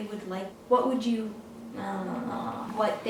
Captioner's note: vocalizes